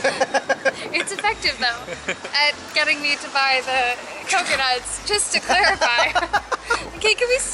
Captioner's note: laughter; laughter